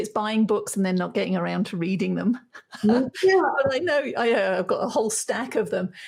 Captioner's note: chuckles